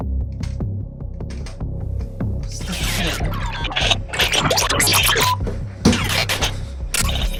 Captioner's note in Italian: glitching